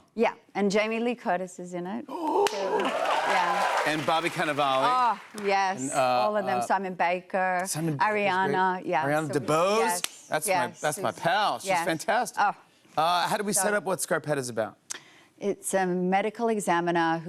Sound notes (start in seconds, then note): 2.1 gasping; 2.3 cheers and applause